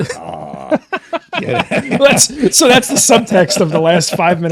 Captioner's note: laughing